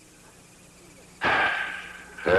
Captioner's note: sighs